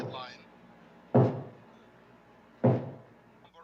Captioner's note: ball thudding